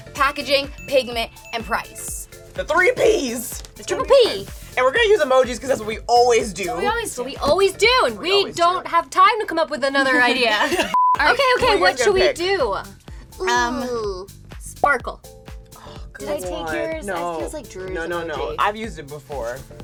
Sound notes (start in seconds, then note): 9.9 laughing